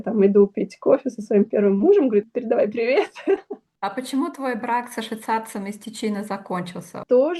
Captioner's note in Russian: смех